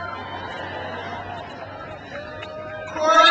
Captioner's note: crowd laughs